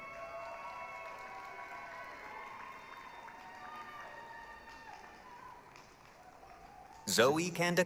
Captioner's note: applause, cheering